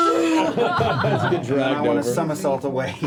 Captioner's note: laughter